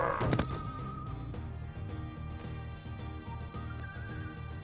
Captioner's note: blaster fire; moan of dying beast; thump